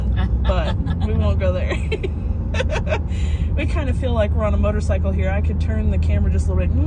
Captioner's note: laughter